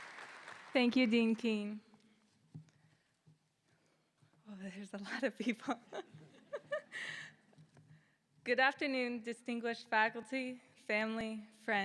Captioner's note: applause